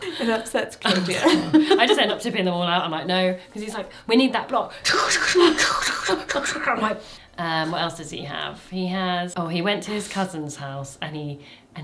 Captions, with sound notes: - It upsets Claudia. - I just end up tipping them all out. I'm like, "No." Because he's like, "We need that block." (churns) I'm like, what else does he have? He has, oh, he went to his cousin's house